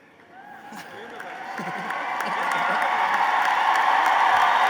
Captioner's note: applause